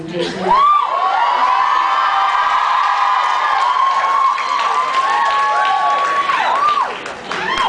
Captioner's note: cheers, screams